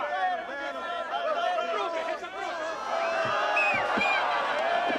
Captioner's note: taunting shouts